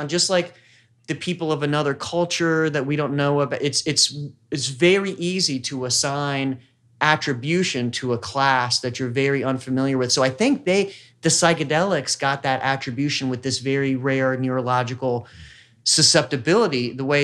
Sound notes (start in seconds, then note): none